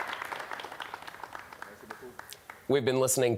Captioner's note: applause